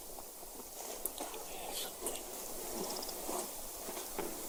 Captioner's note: insects clicking